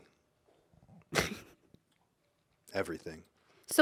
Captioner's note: laughs